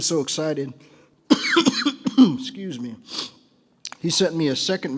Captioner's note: coughs